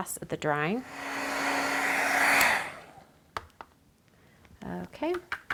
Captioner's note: heat tool whirring